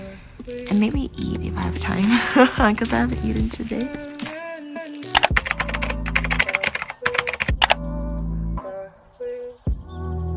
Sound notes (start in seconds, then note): 2.0 laughs; 5.1 keyboard Clicking & Typing